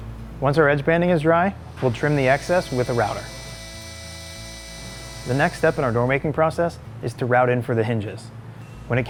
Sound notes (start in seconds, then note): 4.3 router humming; 5.2 mellow music